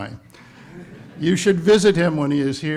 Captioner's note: audience laughs